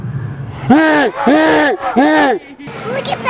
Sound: screaming

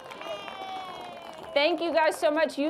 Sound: applause

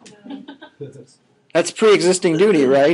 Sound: scattered laughing

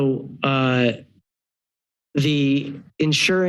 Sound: pause

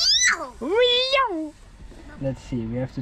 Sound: squeals

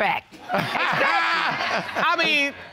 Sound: all laugh

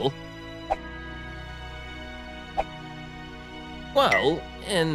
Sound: hands whooshing

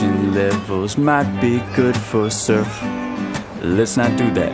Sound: grunting

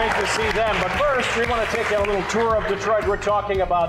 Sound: applause

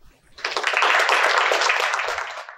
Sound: applause

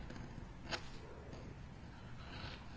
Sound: pen strokes

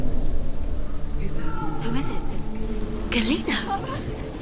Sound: distant scream

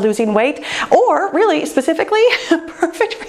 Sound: laughs

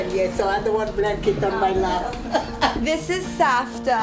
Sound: laughs

